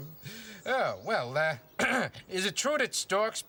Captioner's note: clears throat